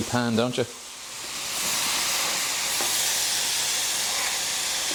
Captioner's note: sizzling